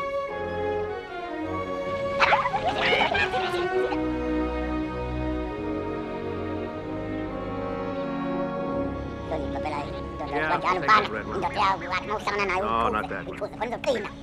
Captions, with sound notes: [Speaking Alien Language] Yeah, we'll take that red one. No, not that one.